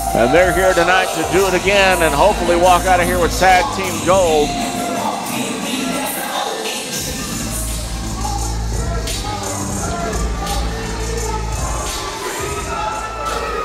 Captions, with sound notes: And they're here tonight to do it again, and hopefully walk out of here with Tag Team Gold. (rap music) (crowd shouting)